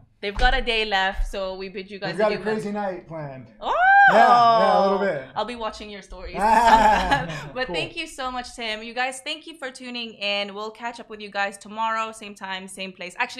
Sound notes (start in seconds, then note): 6.3 laughing